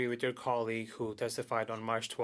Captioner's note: speaking French